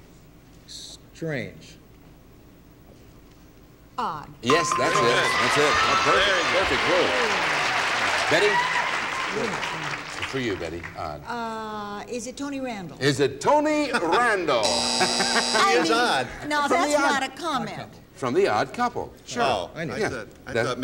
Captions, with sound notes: -Strange. -Odd. (ding) -Yes, that's it. That's it. -Very nice. -A perfect, perfect clue. Betty? For you, Betty, odd. -Is it Tony Randall? -Is it Tony Randall? (buzzer) -He is odd. -Thank god. -I mean, now, that's not a comment. -From "The Odd Couple" show. -Oh, I thought maybe you were --